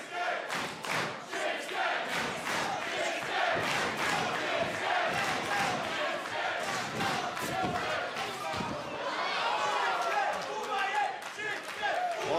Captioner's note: crowd cheering